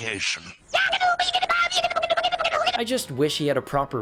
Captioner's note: yaggityboo noises